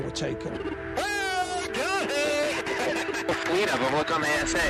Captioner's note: laughs